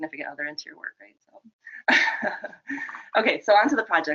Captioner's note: laughing